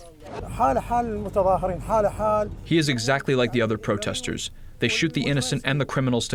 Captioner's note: through translator